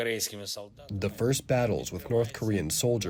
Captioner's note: through translator